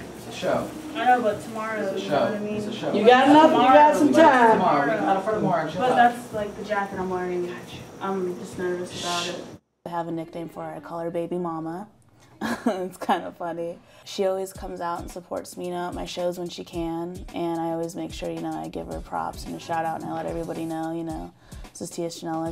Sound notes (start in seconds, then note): 12.4 laughs